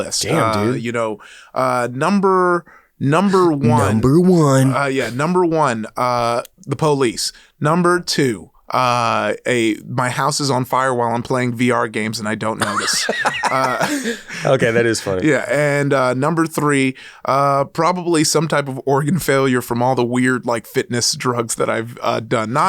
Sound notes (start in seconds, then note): 12.6 laughs